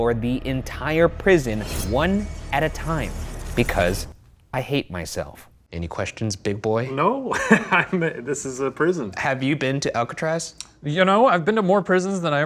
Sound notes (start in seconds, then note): 7.0 laughing